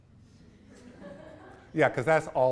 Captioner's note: students laugh